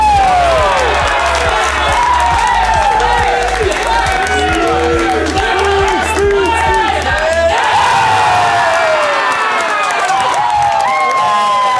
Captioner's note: cheering